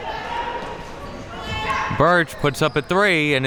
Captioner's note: spectators shouting